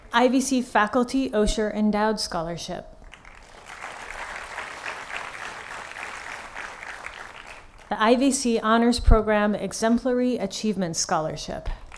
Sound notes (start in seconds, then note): 3.0 applause